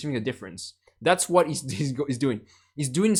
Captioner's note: chuckles